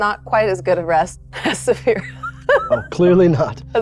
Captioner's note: laughing